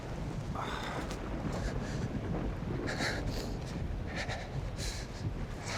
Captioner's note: thunder rumbles